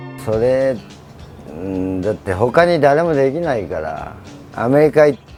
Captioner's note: speaking in foreign language